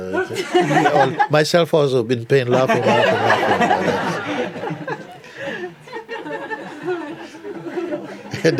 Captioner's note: laughter